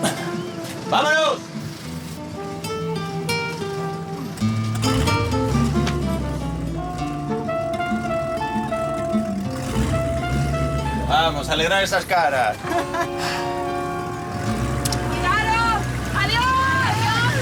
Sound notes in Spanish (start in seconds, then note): 4.7 Ruido de los motores; 11.0 Ruidos de los motores al irse; 16.2 Ruidos de los motores al irse; 16.8 Todos se gritan "¡Adiós!"